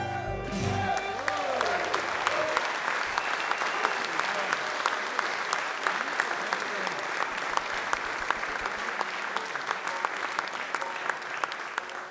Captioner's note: audience Applause